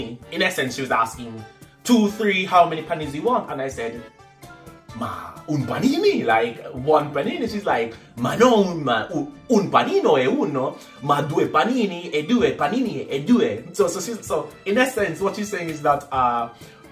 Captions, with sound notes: In essence, she was asking 2, 3, how many paninis do you want ? And I said, (speaking in Italian) Like, one panini, and she said, (speaking in Italian) So in essence, what she's saying is that